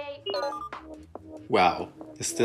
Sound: electronic ping

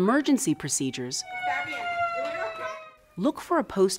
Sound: alarm sounding

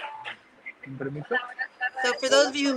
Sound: speaking in foreign language

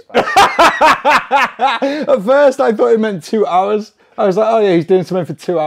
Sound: laughing

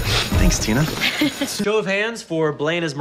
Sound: Tina laughs

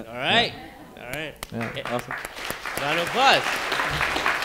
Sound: audience applauding

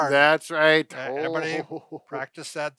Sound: laughs

